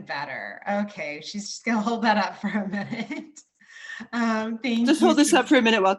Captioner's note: laughs